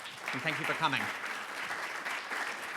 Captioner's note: clapping